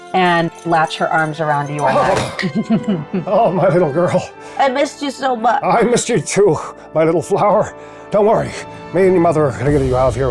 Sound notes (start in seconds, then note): 1.9 chuckles; 2.8 grunting